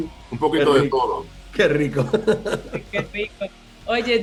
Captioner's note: laugh